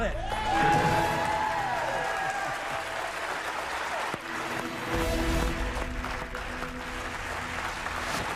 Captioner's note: cheers and applause; dramatic musical flourish; applause